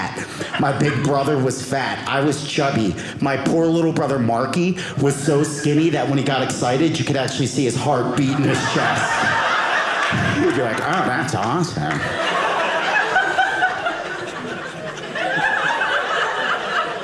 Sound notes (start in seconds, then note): 11.8 audience laughing